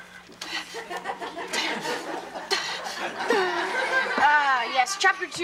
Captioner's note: grunting; audience laughs